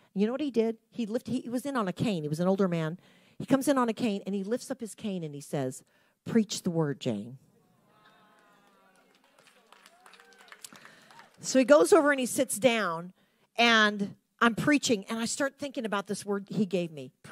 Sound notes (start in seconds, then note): 8.6 audience lightly clapping